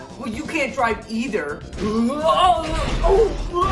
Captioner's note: screaming